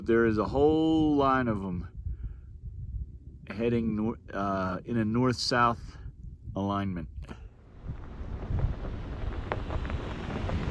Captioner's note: truck noises